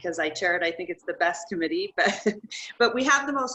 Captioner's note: chuckles